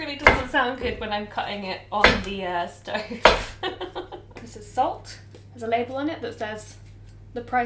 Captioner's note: laughs